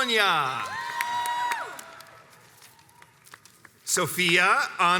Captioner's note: crowds cheers and applauds